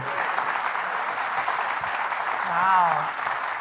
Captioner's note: audience continues applauding